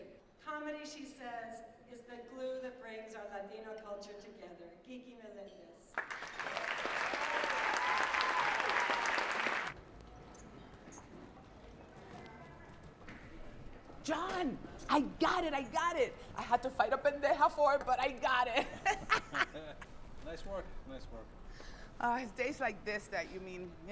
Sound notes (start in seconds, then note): 5.9 audience clapping and cheering; 18.6 both laughing